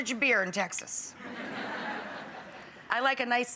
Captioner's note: audience laughs